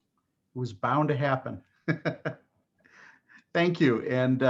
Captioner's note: laughing